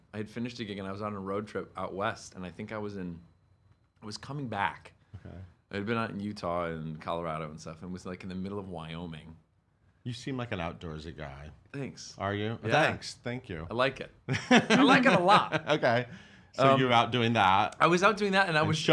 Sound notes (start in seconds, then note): 14.3 laughing